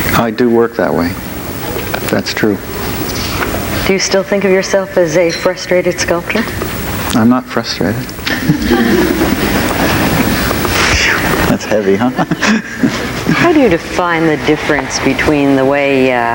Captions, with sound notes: I do work that way, that's true. - Do you still think of yourself as a frustrated sculptor? - I'm not frustrated. (audience laugh) That's heavy, huh? (laughs) - How do you define the difference between the way